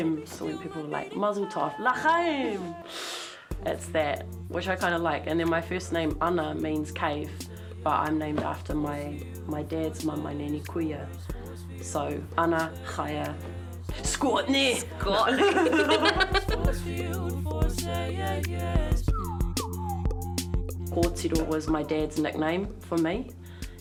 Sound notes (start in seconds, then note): 15.2 both chuckling; 19.0 whistling